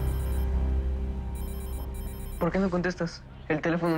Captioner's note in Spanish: Suena el celular